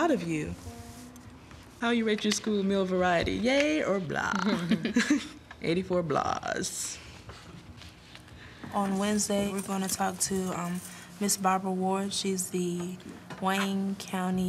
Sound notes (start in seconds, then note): 4.2 both laugh